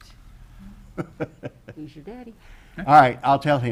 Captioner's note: laughs